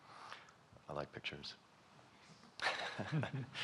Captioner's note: chuckles